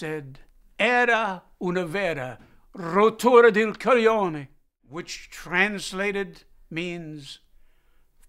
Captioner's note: speaking Italian